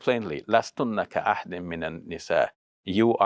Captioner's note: speaking Arabic